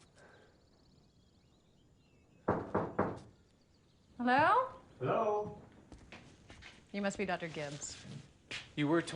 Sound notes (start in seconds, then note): 2.4 knocking at door